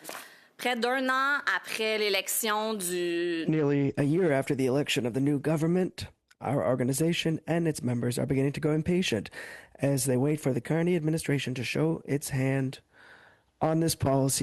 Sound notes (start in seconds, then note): 4.6 speaking French